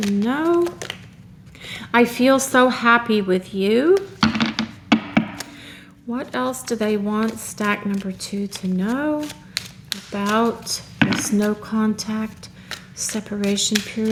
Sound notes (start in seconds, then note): 4.2 shuffle